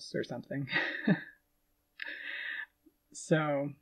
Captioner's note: laughing